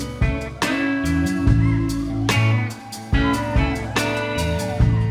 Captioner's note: audience cheering